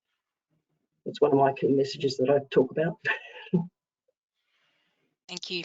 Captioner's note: chuckles